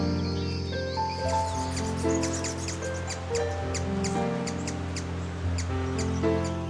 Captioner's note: birds chirping